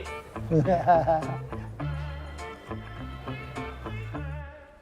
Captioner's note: laughs